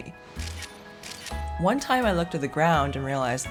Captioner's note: camera shutter clicking